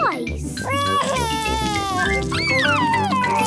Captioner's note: crying